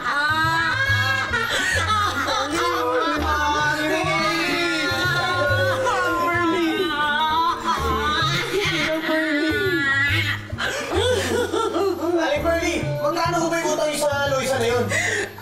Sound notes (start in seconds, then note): 0.0 Loisa exits with another evil laugh